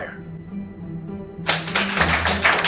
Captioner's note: cheering